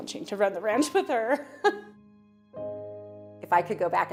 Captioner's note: chuckling